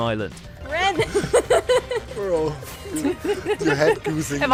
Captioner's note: laughs